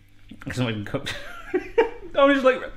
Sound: laughs

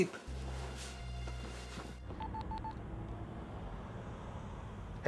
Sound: phone beeps

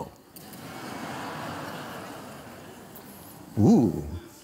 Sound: laughter

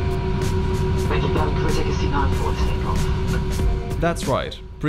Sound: airplane announcement

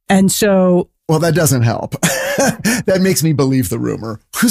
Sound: guffaw

